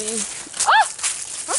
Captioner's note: screams, trips slightly